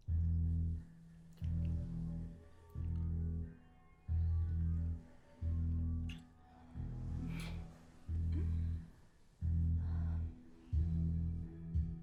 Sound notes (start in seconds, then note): 6.4 sound of kissing - Ana coos happy in bed under covers